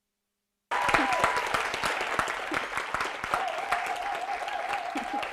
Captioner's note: audience applauding